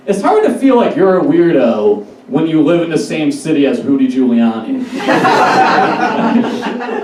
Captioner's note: audience Laughs